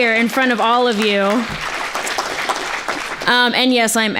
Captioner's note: applause